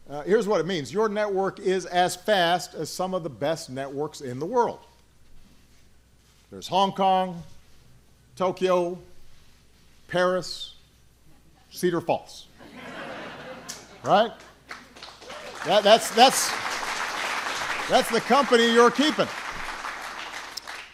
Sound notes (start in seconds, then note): 12.6 laughter